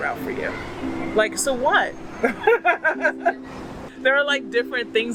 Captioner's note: laugh